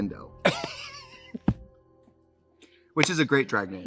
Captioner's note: Katya laughs